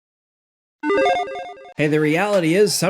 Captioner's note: electronic chiming